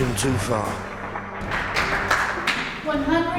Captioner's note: audience claps